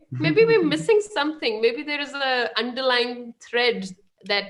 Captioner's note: chuckles; laughing